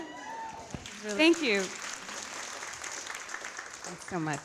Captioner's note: audience applauding